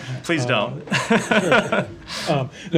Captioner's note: laughter